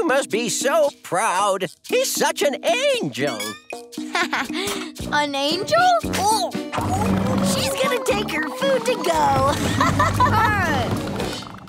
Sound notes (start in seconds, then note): 4.0 chuckles; 9.3 laughing